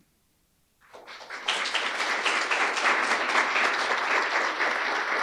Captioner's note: audience applauding